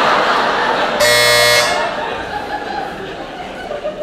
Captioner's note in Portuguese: campainha